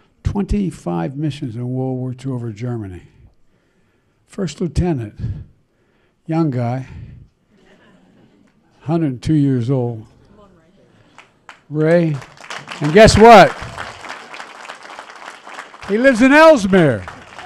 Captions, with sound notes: 25 missions in World War Two -- over Germany. First Lieutenant, young guy. (Laughter.) A hundred and two years old. Ray? (Applause.) And guess what? He lives in Elsmere!